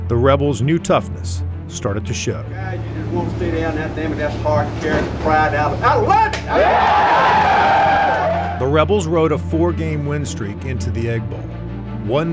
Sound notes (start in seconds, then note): 6.7 men cheer